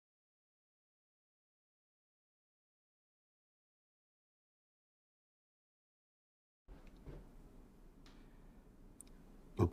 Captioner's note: silence